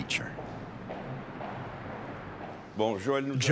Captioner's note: footsteps tapping; speaking in foreign language